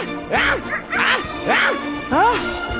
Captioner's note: wolf leader roar